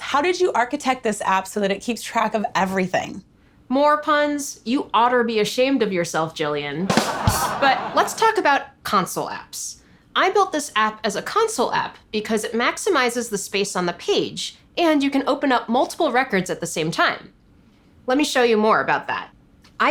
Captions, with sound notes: How did you architect this app so that it keeps track of everything? - More puns? You otter be ashamed of yourself, Gillian, (ba-dum ching drum music) (studio audience laughter) but let's talk about console apps. I built this app as a console app, because it maximizes the space on the page and you can open up multiple records at the same time. Let me show you more about that.